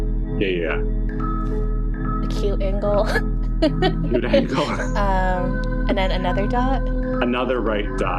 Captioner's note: laughs